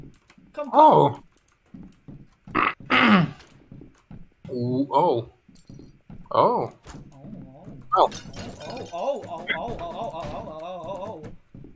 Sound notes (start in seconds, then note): 2.5 clearing throat